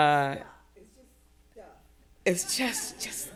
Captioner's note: attendee speaking softly